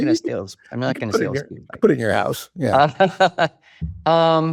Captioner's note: chuckles